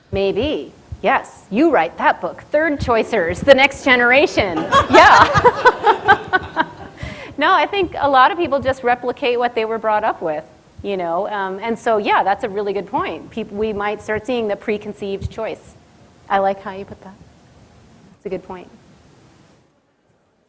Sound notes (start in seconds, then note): 4.5 audience laughter